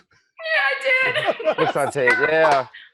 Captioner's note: laughter